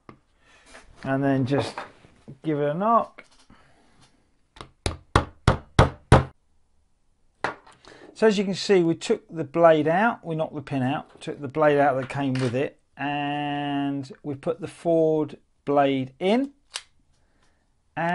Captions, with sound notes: And then just give it a knock. (hammering) So as you can see, we took the blade out. We knocked the pin out, took the blade out that came with it and we've put the Ford blade in and it's not bad, actually.